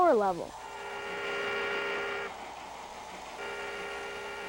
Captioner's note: horn honking